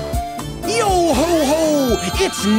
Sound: none

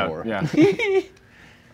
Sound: laughing

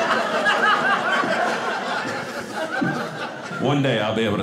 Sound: audience laughing

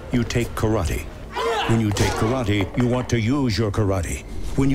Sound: grunts

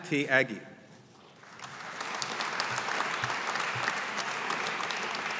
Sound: audience applauding

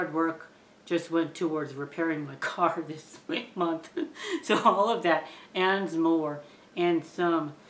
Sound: chuckling in laughter

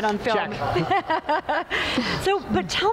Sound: laughs

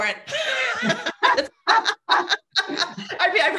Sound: all laughing

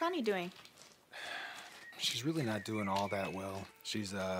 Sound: sighs

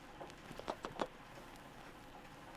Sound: kissing noises

